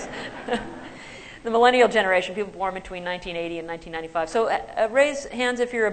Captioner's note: laughter